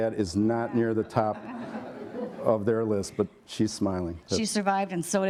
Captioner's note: laughter